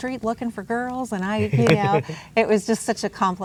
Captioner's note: laughs